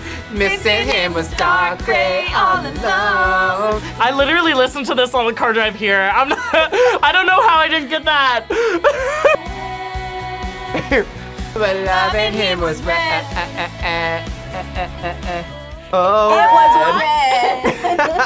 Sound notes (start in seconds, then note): 8.4 laughs; 18.0 both laugh